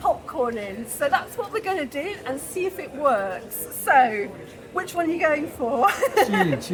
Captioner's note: laughing